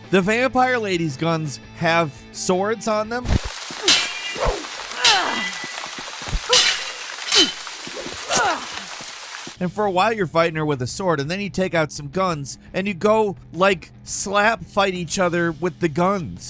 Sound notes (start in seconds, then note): 3.5 characters grunting; 3.5 swords clanking